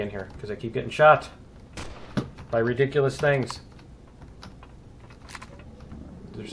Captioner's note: gunfire; weapons clicking; alien growling